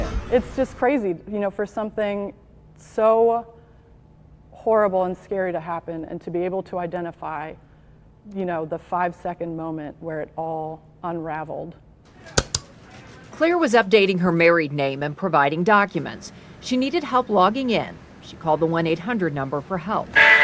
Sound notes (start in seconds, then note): 12.3 mouse clicking